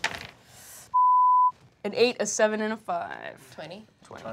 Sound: beep

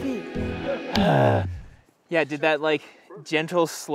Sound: beleaguered exhale

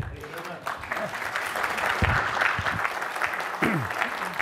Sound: audience clapping

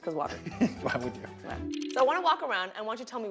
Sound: laughs

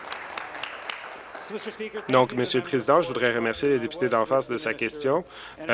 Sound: applause

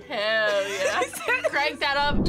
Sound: laughs

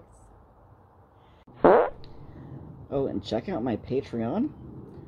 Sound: fart noise

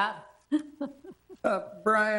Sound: chuckles

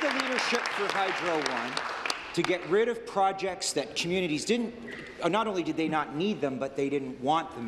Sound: applause

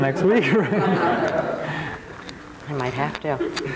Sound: crowd laughs

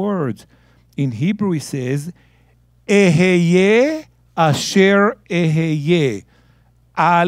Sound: speaking in Hebrew

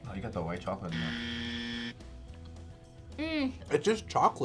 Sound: buzzer rings

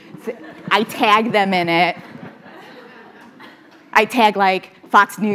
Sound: audience laughing

